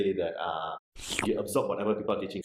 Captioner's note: sucking